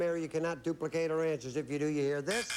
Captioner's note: buzz buzz